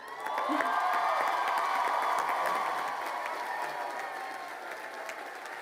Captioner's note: crowd cheering and applauding